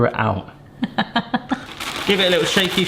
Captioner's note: laughs